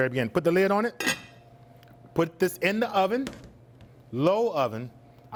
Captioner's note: lid clatters